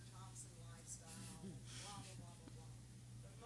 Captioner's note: laughing